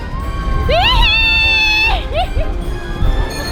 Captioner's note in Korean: 비명; 웃음; 종료의 종소리